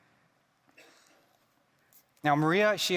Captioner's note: attendee coughing